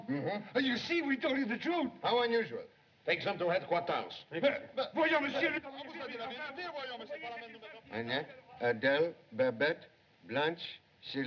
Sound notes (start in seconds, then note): 4.3 both Shouting; 5.3 shouting Continues